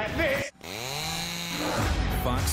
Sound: chain saw buzzing

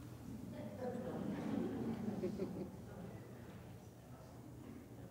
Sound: audience chattering

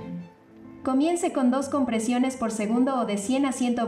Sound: speaking spanish

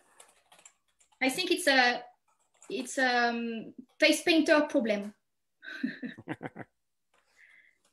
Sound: chuckles

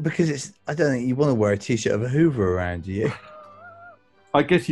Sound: sniggering

